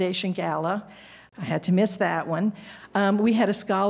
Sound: none

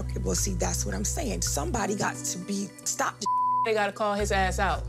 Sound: beep

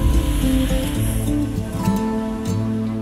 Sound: vehicle whooshing

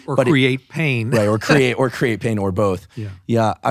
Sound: laughing

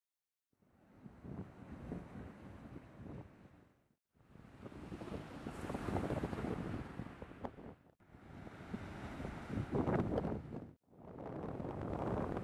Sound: waves

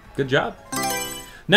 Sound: Mario Selection Sound

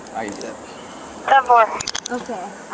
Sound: radio dispatch

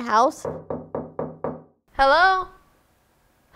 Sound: knocking

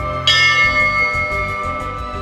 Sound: bell dings

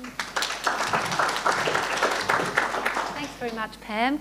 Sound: audience applauds

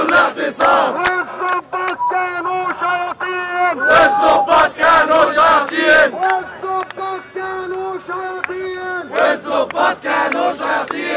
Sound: chants

